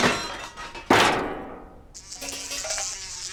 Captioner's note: flies buzz